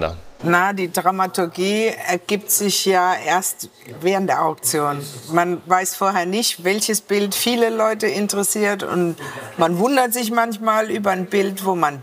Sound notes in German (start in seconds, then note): none